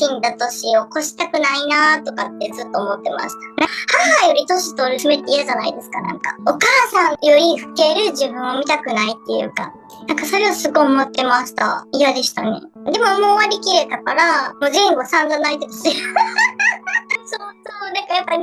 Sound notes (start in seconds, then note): 15.9 laughs